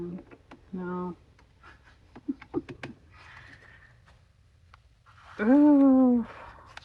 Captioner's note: laughs